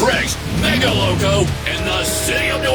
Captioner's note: engine revving; train whistle blares